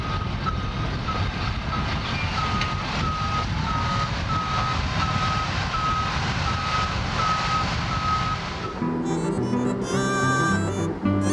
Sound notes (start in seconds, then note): 3.0 beeping